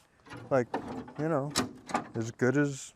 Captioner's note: machine clunking